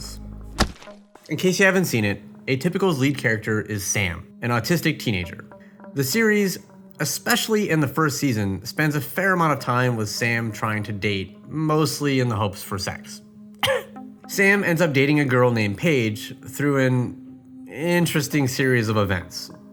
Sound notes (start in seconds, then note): 13.6 cough